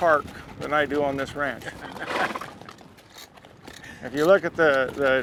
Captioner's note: horse whinnies